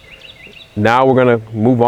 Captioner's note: laughing